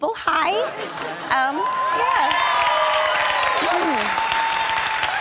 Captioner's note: audience cheering